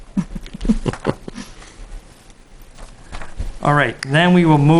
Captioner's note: board member chuckling